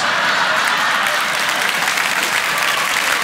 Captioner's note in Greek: γέλια; χειροκρότημα